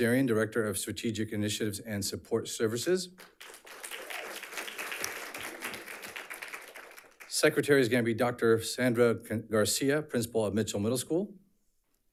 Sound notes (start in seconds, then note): 3.2 audience applauds